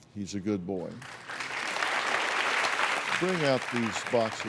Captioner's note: applause